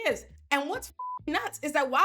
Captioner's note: beep